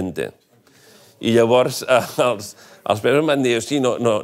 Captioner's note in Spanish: ríe